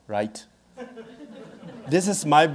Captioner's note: audience laughing